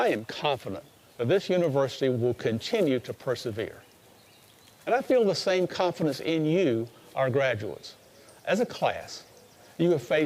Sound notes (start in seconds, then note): none